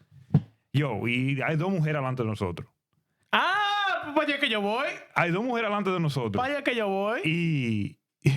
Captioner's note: speaking In Spanish